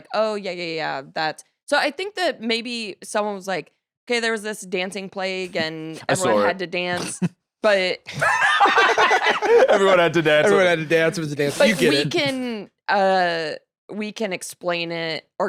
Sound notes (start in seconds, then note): 8.1 both laughing